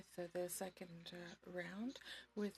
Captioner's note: speaking in French